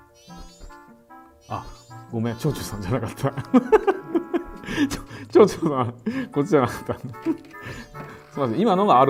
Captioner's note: laughs